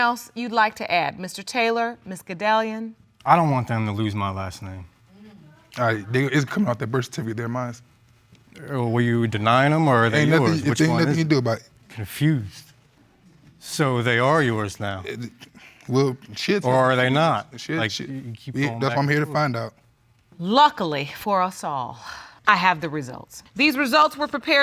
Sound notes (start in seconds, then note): 4.0 murmuring approval; 16.7 stuttering